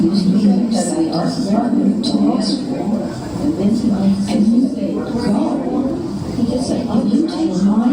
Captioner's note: female voice in English